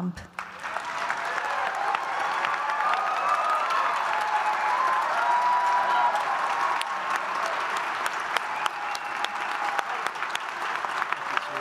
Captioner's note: applause